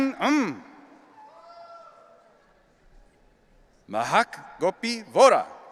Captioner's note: audience cheering